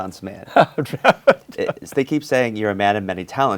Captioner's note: laughs